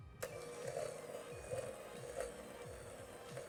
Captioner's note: mixer hums